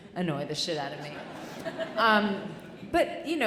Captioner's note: audience chuckling